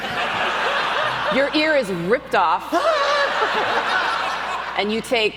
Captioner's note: audience laughs